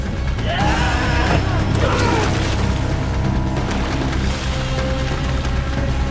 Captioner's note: intense dramatic music; both shouting and grunting; intense dramatic music